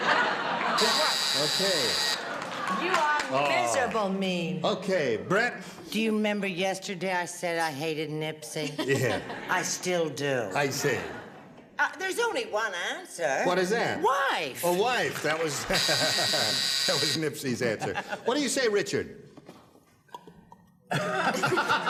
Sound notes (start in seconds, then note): 15.6 laughs; 20.2 laughter